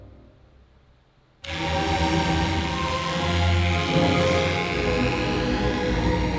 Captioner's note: electric shaver whirring